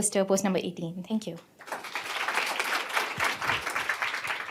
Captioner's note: applause